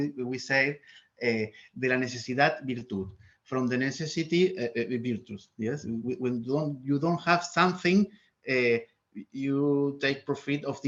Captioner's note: speaks in Spanish